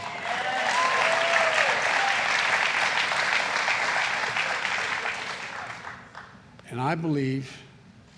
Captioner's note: applause